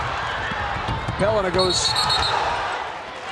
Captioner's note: whistle blows